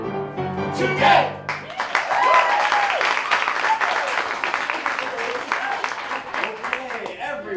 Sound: applause

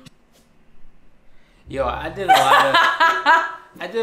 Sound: laughs

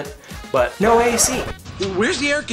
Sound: record scratching

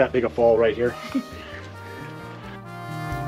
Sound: laughter

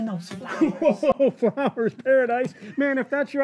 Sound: laughs

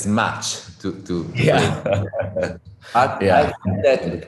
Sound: laughs

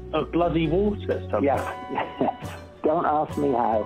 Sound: laughs

